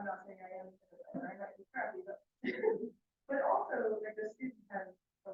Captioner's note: laughs